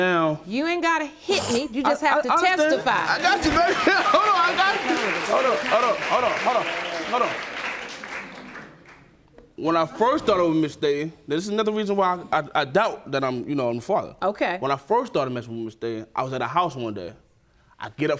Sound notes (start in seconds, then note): 2.1 stammering; 2.6 audience clapping